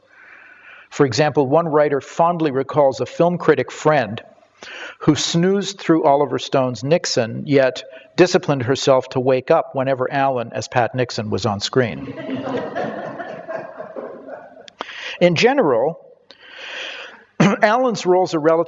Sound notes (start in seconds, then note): 12.0 audience laughter